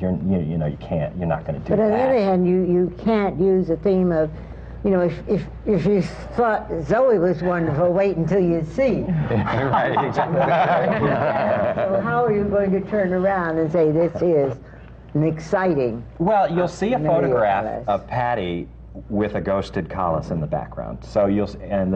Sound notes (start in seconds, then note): 9.2 laughter